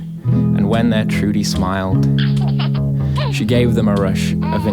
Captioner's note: Trudy giggling